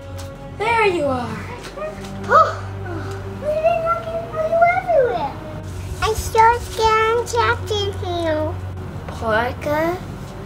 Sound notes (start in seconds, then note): 2.4 sighs of relief